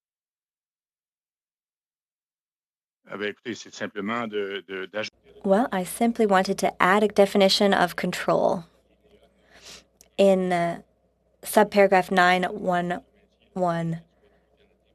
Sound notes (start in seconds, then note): 10.5 speaking French